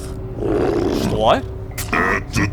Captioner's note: monster growl